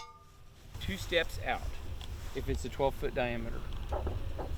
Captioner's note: fireworks setup sounds